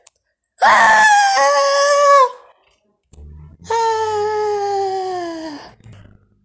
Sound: screams

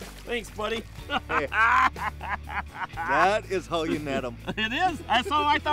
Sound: laughing

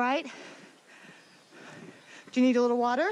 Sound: competitors breathing heavily

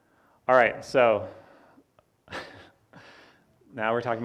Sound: laughs

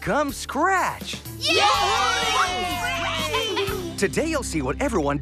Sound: cheering

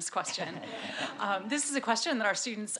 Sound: audience laughs

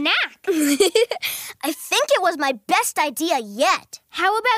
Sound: laughs

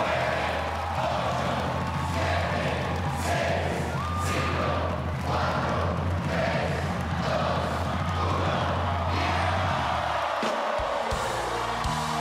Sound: cheers and applause

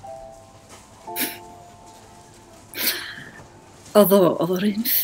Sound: short laugh

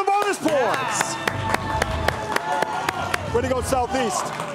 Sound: crowd cheering

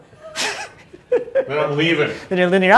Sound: both laugh

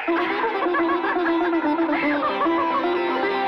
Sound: laughing

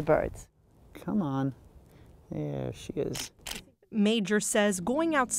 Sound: camera clicks

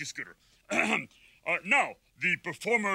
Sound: clears throat

